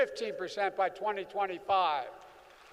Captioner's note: applause